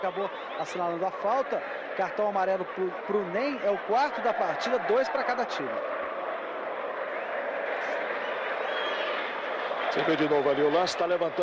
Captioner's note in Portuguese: aplausos